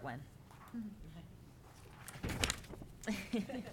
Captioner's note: laughing